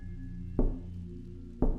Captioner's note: knock